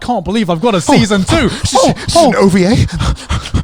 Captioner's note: panting